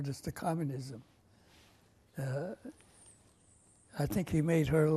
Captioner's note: pauses for 3 seconds